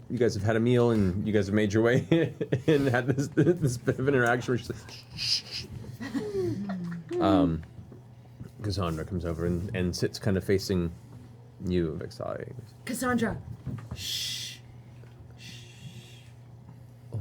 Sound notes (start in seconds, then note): 6.2 shushes; 15.4 shushes